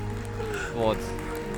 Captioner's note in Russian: Аплодисменты